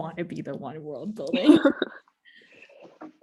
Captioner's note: laughs